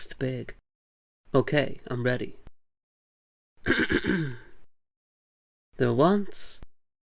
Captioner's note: coughs